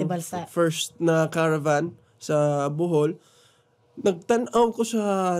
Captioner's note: none